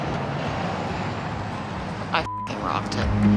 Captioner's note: beep